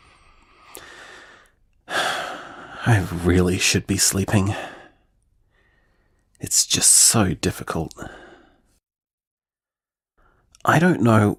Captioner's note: sigh